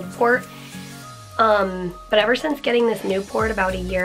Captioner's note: none